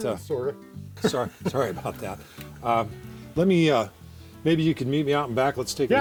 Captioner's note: laughs